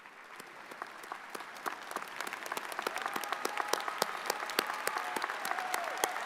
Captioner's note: audience cheers and applauds